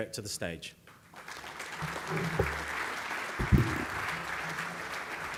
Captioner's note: audience applauding